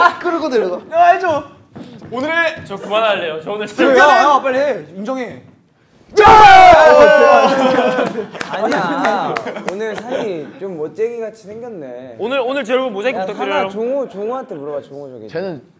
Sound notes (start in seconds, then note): 12.0 sullen